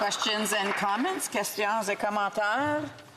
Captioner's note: applause